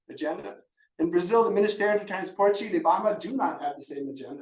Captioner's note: speaking Portuguese